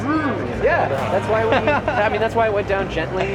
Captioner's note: laughing